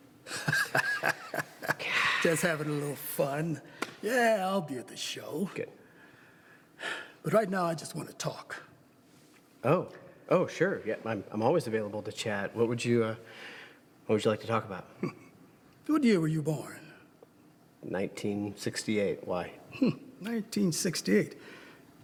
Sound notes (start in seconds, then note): 0.2 laughs; 1.7 sighs